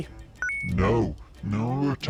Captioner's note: bonus point chimes